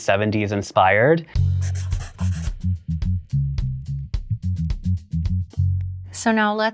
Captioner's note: jazz music; pencil scribbling